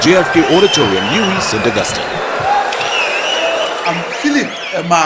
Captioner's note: wild applause and cheering for 22 seconds